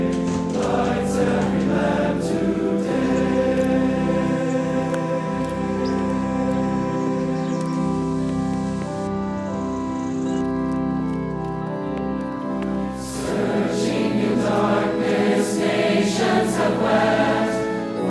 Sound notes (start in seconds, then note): 8.0 bright piano music; 8.0 footsteps thumping